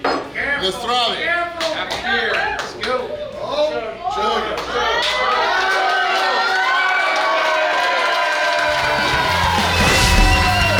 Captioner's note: cheering